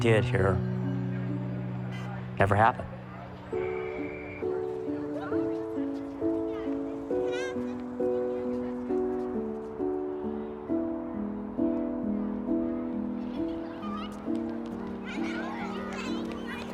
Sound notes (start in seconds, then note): 8.7 children chattering